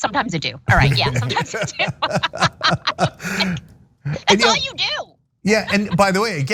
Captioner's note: laugh